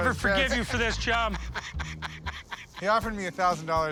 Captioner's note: laughing